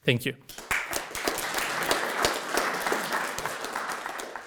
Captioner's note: audience clapping